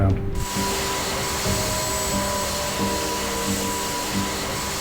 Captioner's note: plane engine humming